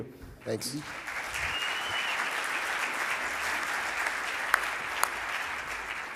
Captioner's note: audience applauds